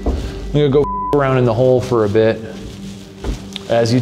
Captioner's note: beep